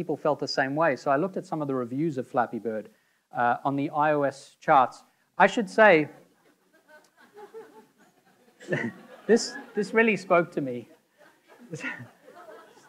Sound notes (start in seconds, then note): 6.4 audience laughing; 8.8 laughing